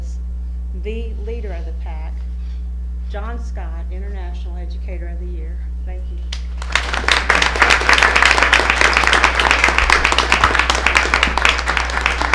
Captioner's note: applause